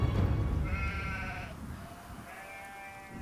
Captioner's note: bleating